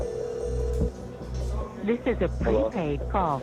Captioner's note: phone rings